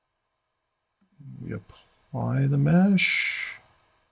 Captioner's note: silence